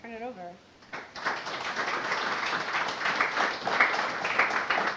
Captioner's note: audience applauding